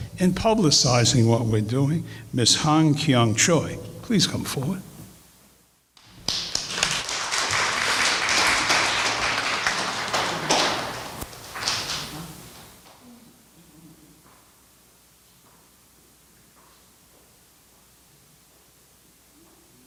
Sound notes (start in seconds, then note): 6.0 applause